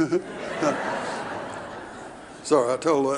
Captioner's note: audience laughing